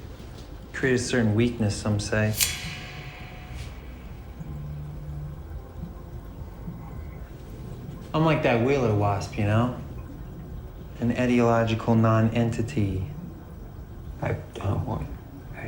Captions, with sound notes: Create a certain weakness, some say. (switchblade snaps) I'm like that wheeler wasp, you know? An etiological non-entity. - I don't want pain.